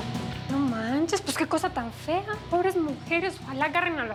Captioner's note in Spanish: voz en la t.v